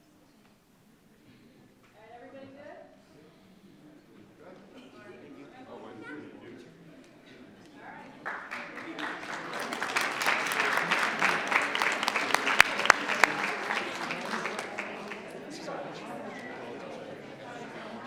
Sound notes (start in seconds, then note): 1.9 people chattering indistinctly; 11.8 audience applauding